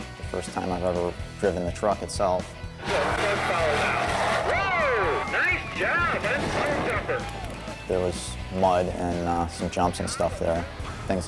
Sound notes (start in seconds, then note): 2.7 truck roaring; 2.8 spectators cheering; 2.8 commentator chatters